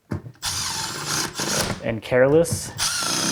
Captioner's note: tool whirring